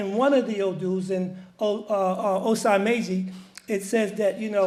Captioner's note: speaks foreign language